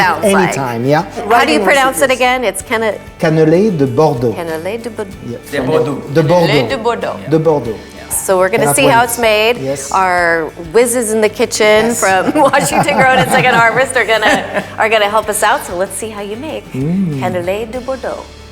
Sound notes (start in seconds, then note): 12.0 laughing